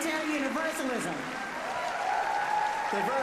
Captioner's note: applause